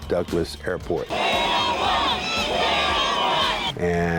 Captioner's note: crowd chanting